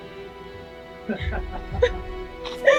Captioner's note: Alexei laughs